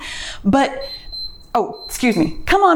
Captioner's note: timer beeps